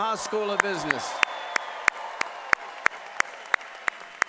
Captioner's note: applause